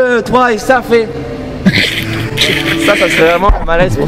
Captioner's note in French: rire